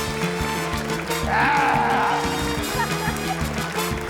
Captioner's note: grunts